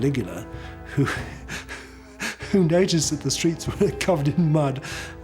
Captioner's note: laughs